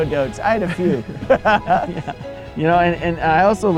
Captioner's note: laughs